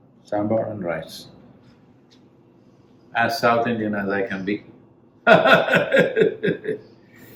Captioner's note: laughs